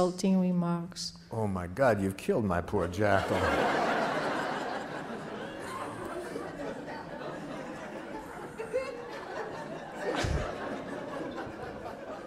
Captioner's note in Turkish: Gülüşmeler